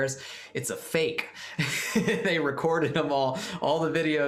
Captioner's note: laughter